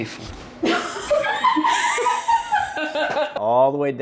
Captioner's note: cackle